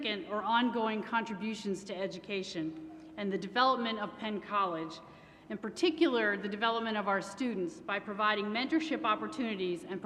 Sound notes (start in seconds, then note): none